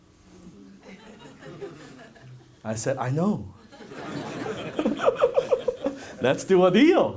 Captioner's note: audience laughs; laughs